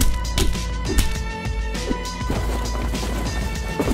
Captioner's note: boxes tumbling; pan clanging